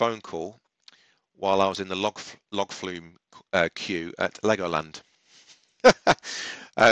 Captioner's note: laughs